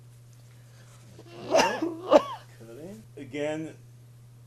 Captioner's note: coughing